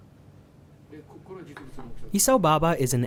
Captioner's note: speaking in foreign language